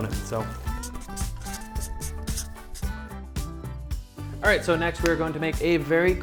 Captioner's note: marker scratching